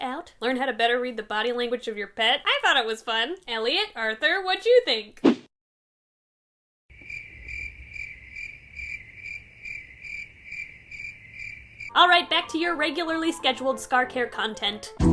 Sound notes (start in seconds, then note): 6.9 crickets; 14.9 elevator music